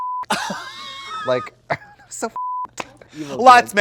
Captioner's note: beep; beep